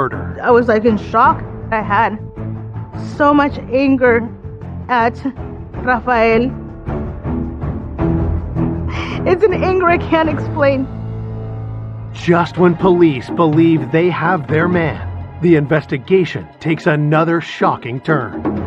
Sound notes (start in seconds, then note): 6.6 dramatic music; 8.7 sobs